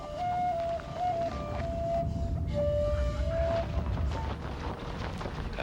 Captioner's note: thunder rolling